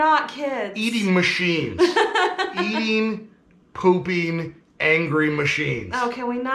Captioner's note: laughing